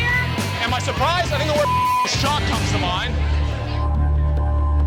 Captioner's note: beep; tense music